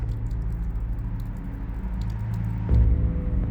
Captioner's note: rain patters; ominous music